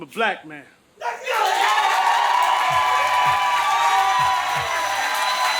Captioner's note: audience cheers and applauds